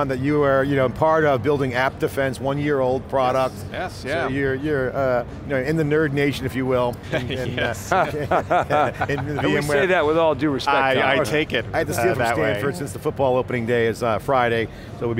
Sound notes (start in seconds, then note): 7.7 chuckles; 7.8 laughter